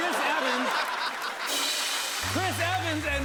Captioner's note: laughter and applause